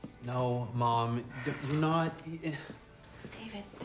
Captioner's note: sighs